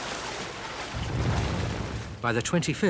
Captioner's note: water babbling; tank rumbling